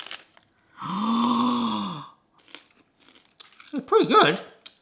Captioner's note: gasping